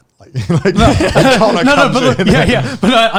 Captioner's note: all laughing